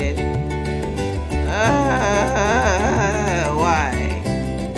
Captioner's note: sounds of exhausted frustration